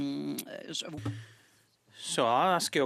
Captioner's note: speaking French